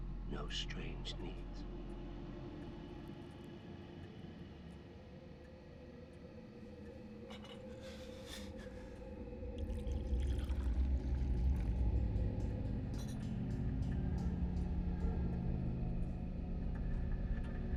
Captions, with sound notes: No strange needs. (tea trickles) (eerie music)